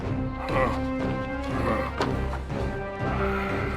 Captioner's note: grunting